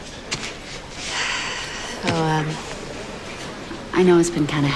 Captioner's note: sighs